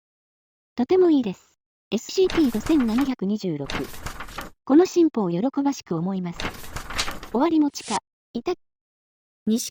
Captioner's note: shuffling her notes